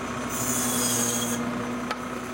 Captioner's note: monotonous motor whirring; bandsaw screeching